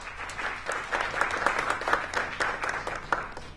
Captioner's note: applause